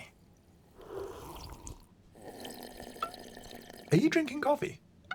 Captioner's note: slurping